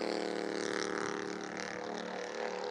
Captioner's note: engine revving fast